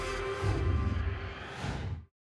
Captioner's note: whoosh